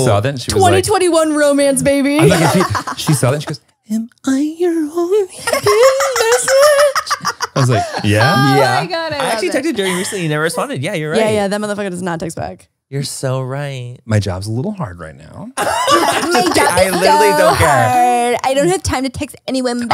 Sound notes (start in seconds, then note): 15.6 everyone laughs